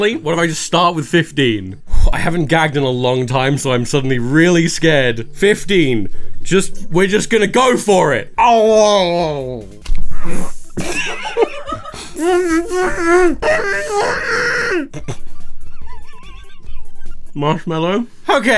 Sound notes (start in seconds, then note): 10.7 both laughing; 15.1 laughing